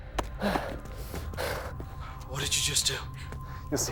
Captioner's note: Adam panting